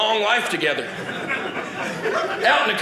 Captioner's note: audience laughing